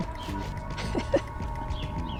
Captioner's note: giggles